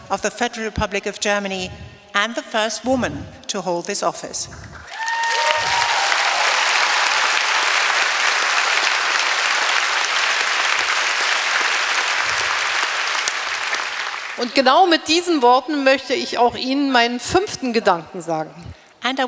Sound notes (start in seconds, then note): 4.7 applause; 14.6 speaking in German